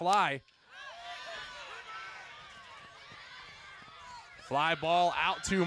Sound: crowd noise

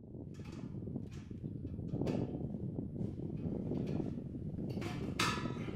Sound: wind blowing

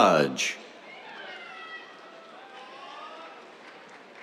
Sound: applause

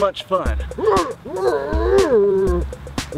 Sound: Bearhead growls

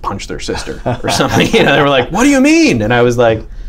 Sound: laughter

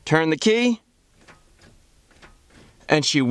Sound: starter motor clicking

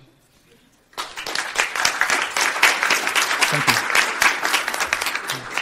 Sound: applause

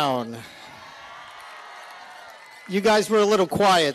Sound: cheering

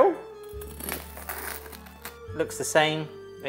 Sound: bread crunching

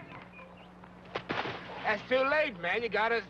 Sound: player's foot scraping sand

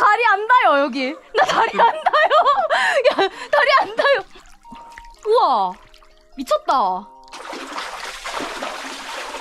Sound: laughing

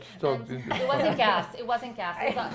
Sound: laughter

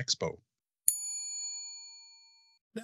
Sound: bell dings

